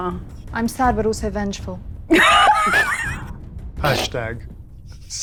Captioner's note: laughing